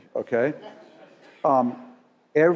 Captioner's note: laugh